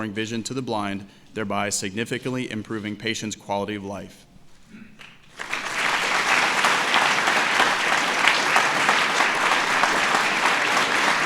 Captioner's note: applause